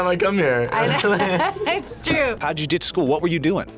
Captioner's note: both laugh